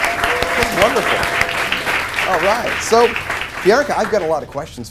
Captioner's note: applause